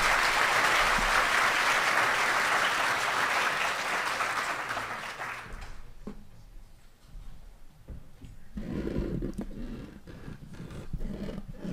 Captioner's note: applause